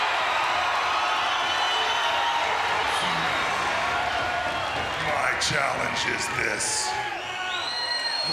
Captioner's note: applause